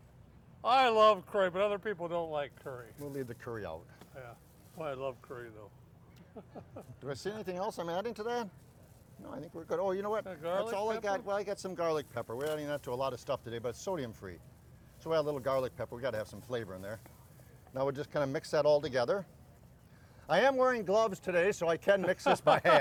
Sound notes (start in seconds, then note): 6.3 laughs